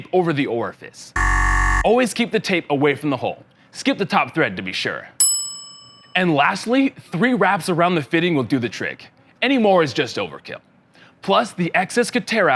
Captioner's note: error sound; ding ding